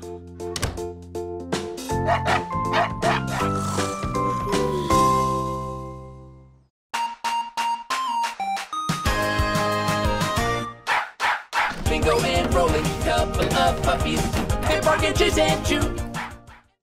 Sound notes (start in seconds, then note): 2.0 barking; 3.5 all snoring